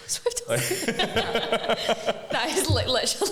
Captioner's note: laughing